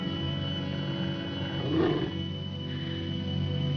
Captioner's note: dog growls